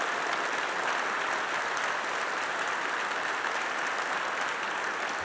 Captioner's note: applause